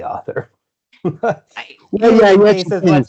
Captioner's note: laughs